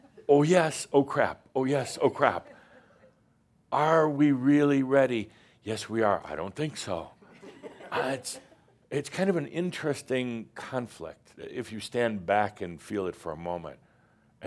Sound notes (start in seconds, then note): 2.4 a few chuckles; 7.2 more chuckles